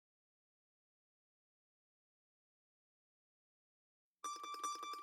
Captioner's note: silence